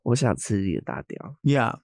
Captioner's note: Nymphia speaking in a foreign language